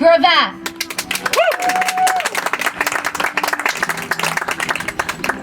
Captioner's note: audience applauds